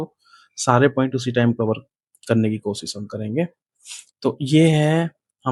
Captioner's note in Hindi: नाक से की जाने वाली आवाज़